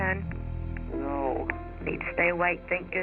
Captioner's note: on phone